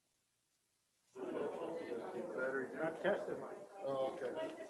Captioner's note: group chattering